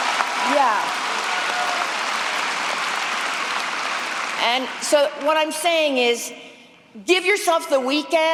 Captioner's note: cheering